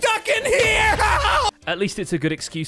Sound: explosion

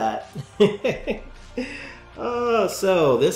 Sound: laughs

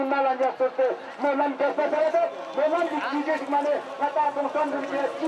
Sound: Ladakhi spoken language

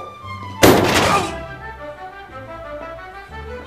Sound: groan

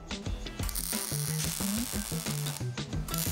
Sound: buzzing

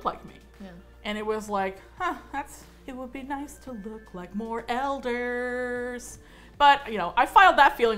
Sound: singsong

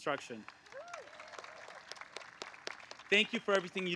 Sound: applause

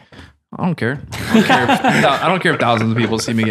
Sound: all laugh

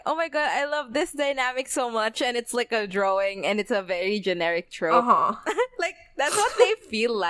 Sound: laughs

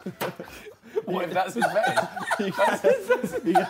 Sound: all laughing

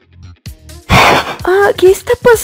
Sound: crash

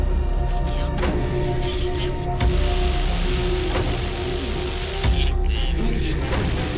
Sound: radio static and faint voices

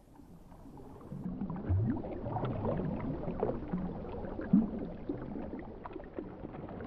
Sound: the sound of rushing water intensifies

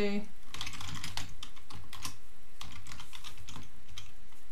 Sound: keyboard clicking

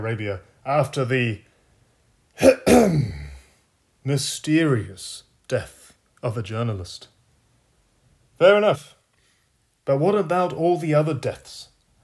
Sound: ahem

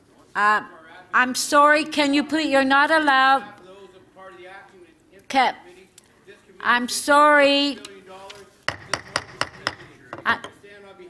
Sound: gavel

